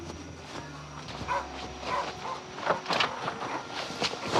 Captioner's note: dog barking